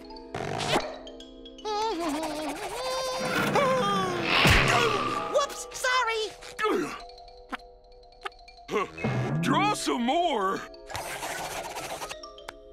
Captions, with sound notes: [humming] Ah! Whoops! Sorry! Draw some more.